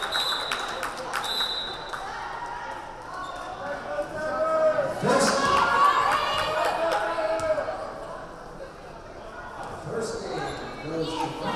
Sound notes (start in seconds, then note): 0.0 whistle blaring; 2.1 crowd chattering; 2.4 crowd cheering